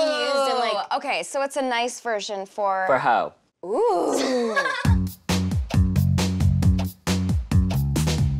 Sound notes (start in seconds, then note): 4.1 laughing; 4.8 upbeat music